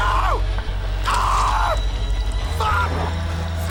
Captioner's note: scraping, wet squish